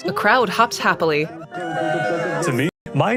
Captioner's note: laughs